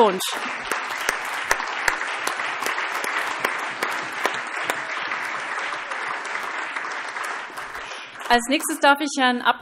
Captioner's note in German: Allgemeiner Beifall